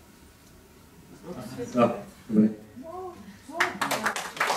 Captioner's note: crowd